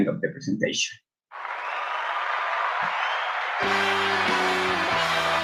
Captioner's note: applause